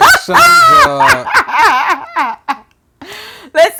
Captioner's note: laughter